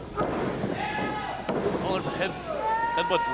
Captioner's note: crowd shouts encouragement